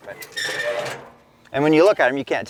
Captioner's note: metal clanking